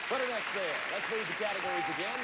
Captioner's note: audience applauding